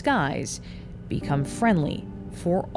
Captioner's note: plane humming